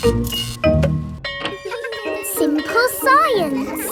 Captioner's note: bell tolling; children laughing